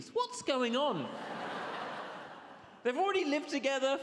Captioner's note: audience laughs